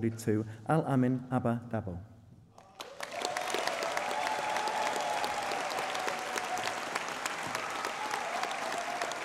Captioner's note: applause